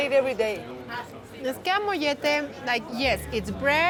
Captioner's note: speaking Spanish